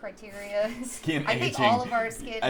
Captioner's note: laughing